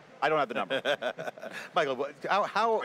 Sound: laughter

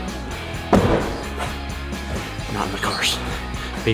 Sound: car door slamming closed

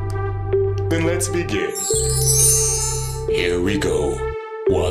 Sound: shimmering

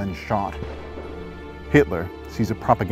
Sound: shot fired in the distance

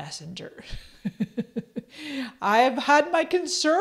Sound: laughs

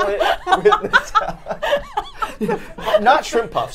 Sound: both laughing

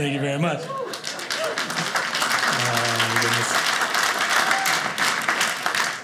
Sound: audience applauding

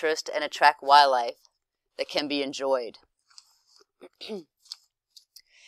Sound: cough

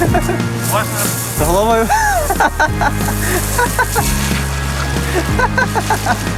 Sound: laughs

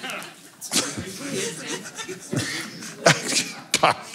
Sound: laughs

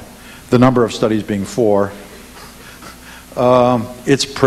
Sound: laughs

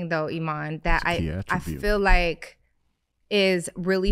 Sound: faintly speaking

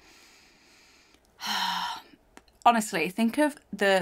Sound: inhales and exhales

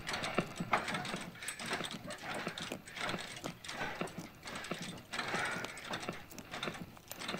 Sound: bedsprings squeaking

